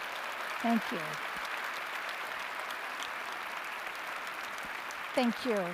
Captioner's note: applause